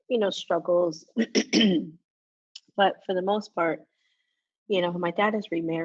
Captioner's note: coughs